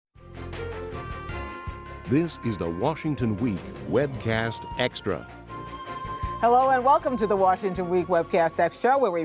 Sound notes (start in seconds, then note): 0.5 professional music; 2.1 voiceover